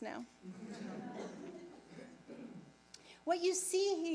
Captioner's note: audience laughing